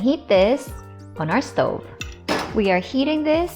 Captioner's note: stove clicks; thud